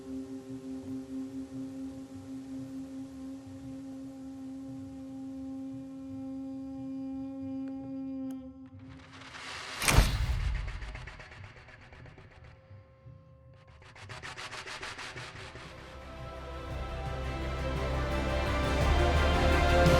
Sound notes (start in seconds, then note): 0.1 calm jazz plays; 9.9 flash bulb pops; 15.8 triumphant music